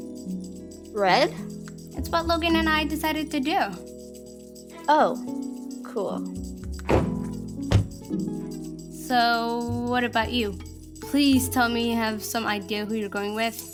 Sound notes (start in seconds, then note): 6.8 door sliding shut